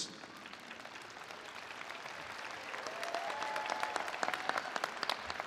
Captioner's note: attendees applauding